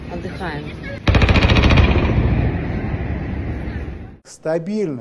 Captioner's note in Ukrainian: звук черги з великокаліберного кулемета